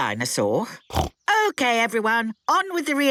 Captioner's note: snorts